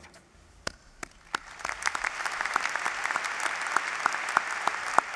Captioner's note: applause